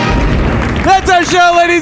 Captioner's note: audience applause; credits music